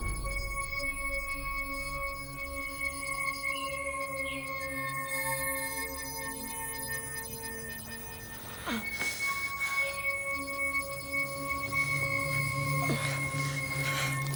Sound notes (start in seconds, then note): 8.5 groaning